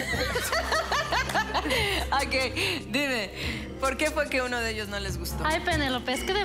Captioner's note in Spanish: Risas